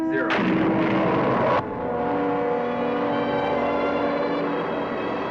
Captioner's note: rockets blasting